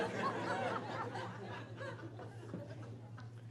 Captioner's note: laughing